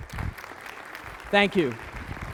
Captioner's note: applause